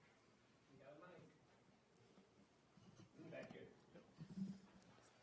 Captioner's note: speaking away from mic